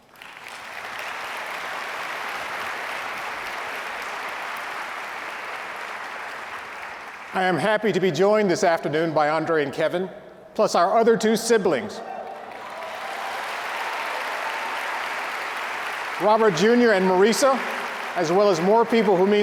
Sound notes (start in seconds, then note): 0.0 audience applauding; 12.1 audience applauding